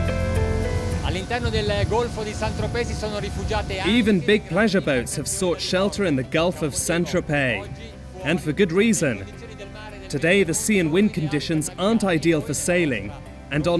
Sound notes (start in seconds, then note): 1.2 speaking in foreign language